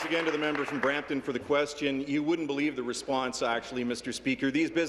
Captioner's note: applause